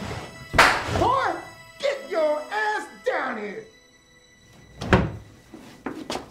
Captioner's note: loud crack